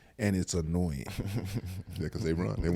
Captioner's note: Eric chuckles